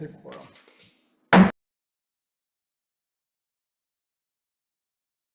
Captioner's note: gavel bangs